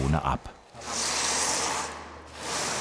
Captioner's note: grinding noises